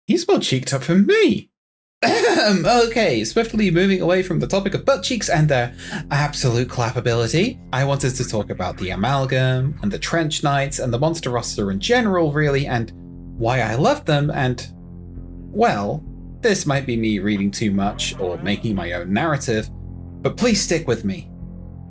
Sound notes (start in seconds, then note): 2.0 awkward throat clearing